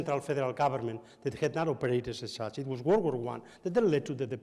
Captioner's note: none